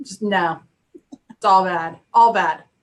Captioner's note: laughs